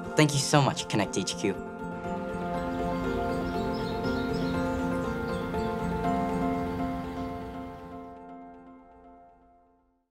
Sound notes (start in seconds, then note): 1.8 birds tweeting; 2.3 gentle music